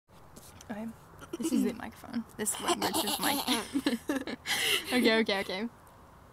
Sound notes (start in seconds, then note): 1.0 clears throat; 1.2 aggressive throat clearing; 2.6 both laugh